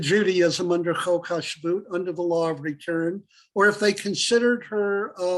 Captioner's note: Hebrew